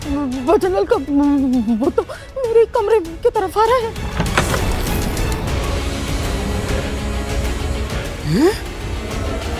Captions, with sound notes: The spirit of Bhajan Laal is coming towards my room [door opens]